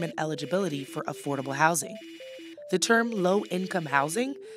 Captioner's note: text clicking